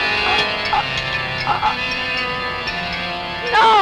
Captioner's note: gagging